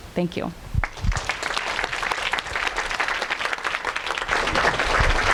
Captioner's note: audience applauding